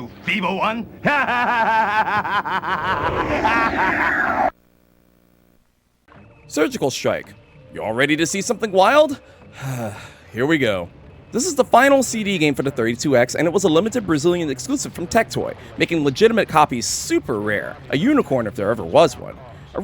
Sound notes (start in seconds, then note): 9.5 sigh